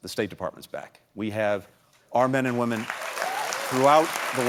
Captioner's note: applause